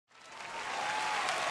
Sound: cheering

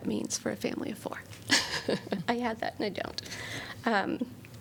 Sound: laughter

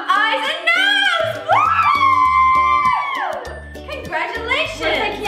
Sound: excited cheers

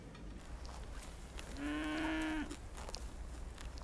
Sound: cattle lowing

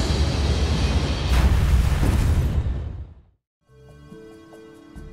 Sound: explosion blasts

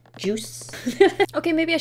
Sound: giggles

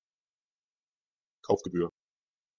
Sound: fast Pronunciation

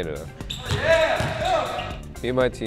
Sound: shouting

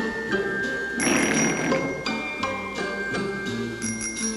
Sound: silly music; blowing raspberries; bell chiming

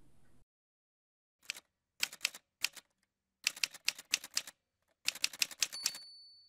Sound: typewriter sounds

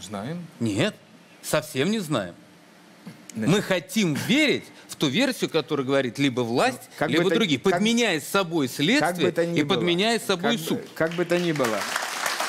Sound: applause

